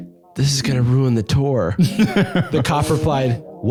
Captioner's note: laughs